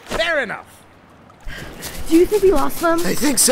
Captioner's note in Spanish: Panting